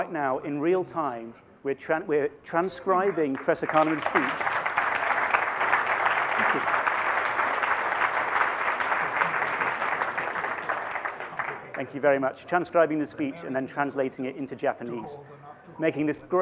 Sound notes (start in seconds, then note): 4.6 applause